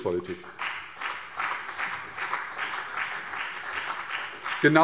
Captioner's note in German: Beifall CDU und BÜNDNIS 90/DIE GRÜNEN